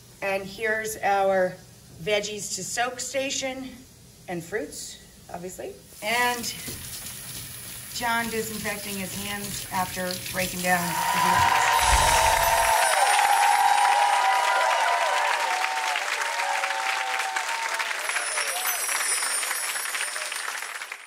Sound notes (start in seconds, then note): 11.7 audience cheering; 12.5 audience clapping; 13.6 twinkling; 18.1 twinkling